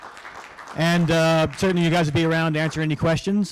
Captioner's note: applause